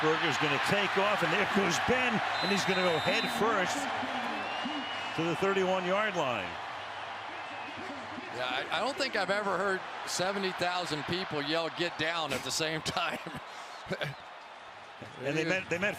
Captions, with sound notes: Roethlisberger is going to take off, and there goes Ben. And he's going to go head first to the 31 yard line. [cheers, applause] Yeah, I don't think I've ever heard 70,000 people yell get down at the same time.